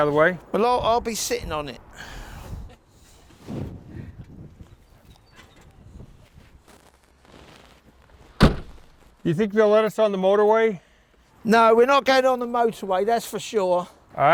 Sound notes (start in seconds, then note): 8.4 door slams